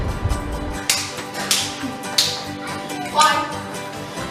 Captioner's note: palms clapping